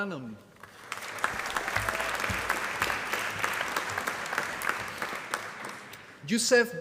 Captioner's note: applause